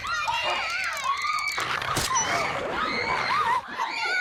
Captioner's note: dog whimpers